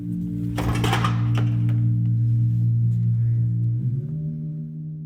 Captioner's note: objects clattering